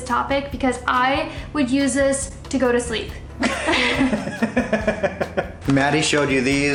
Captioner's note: laughs